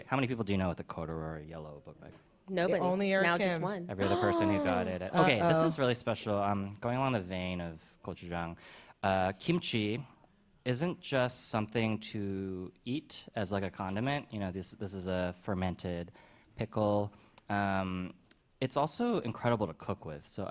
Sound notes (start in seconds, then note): 4.0 gasps